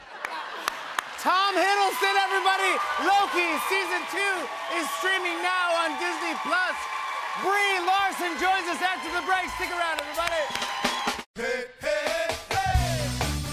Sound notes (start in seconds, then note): 0.0 laughter; 0.3 cheers and applause; 10.0 cheers and applause continue